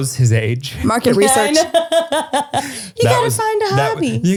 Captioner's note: laughing